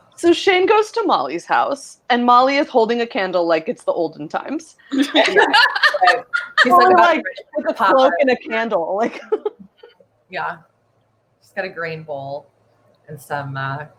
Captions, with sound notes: - So Shane goes to Molly's house and Molly is holding a candle like it's the olden times. (all laugh) Like a cloak and a candle. (laughs) - Yeah, she's got a green bowl and some...